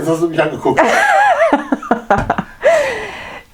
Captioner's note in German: lacht